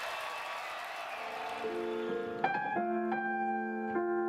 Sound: crowd cheering

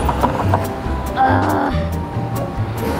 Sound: CUQUIS sighs

